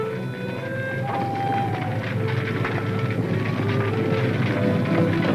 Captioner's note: footsteps tapping; somber music